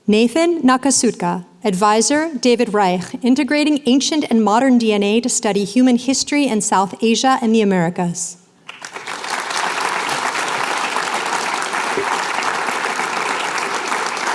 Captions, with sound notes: Nathan Nakatsuka. Advisor, David Reich. Integrating Ancient and Modern DNA to Study Human History in South Asia and the Americas. [APPLAUSE]